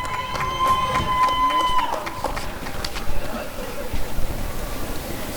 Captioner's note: applause and cheering